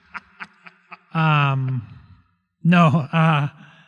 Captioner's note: laughter